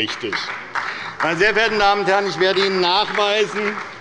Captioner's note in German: Beifall bei der SPD und der LINKEN